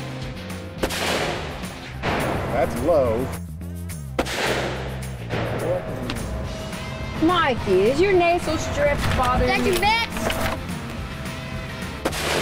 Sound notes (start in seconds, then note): 4.1 gun shot; 12.0 gun shot